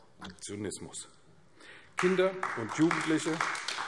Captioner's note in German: Beifall AfD